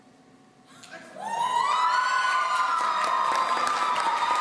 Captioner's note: audience cheering